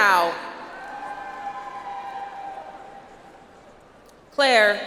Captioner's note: audience applauds